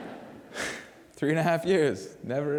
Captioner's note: laughter